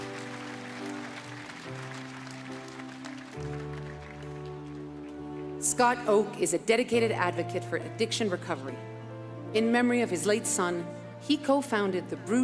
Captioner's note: applause